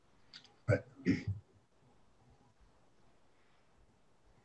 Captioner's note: clears throat